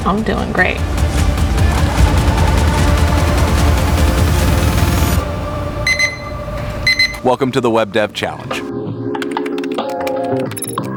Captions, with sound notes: I'm doing great. (beeping) Welcome to the Web Dev Challenge.